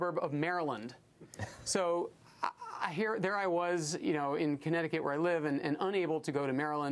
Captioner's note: laughter